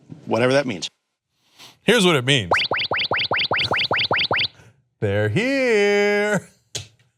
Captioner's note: laser sound effect